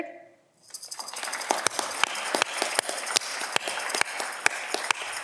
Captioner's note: audience clapping